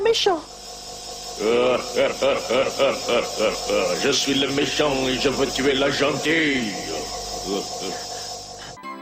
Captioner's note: demonic laugh